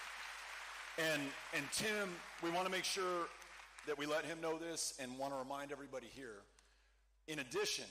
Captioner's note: cheering